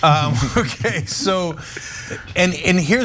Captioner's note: laugh